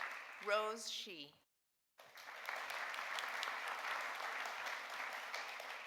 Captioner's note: audience applauding